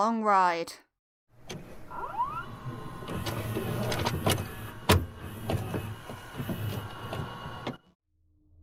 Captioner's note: VHS noises